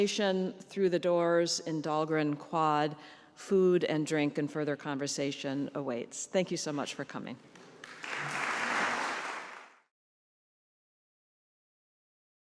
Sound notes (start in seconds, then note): 7.6 audience applauds